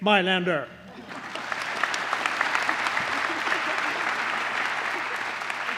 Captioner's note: applause